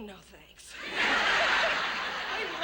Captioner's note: laughter